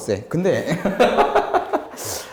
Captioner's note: laughing